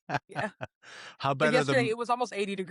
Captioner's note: laughing